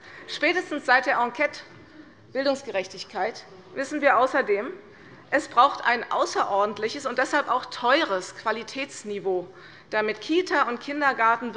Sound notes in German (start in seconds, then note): none